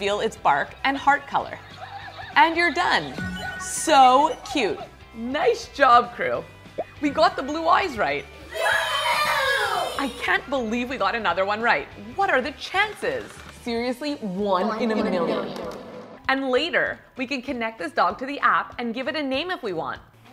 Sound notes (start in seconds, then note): 8.5 kids cheer